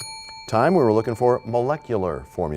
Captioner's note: bell rings, time expires